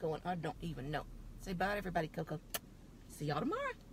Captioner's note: kiss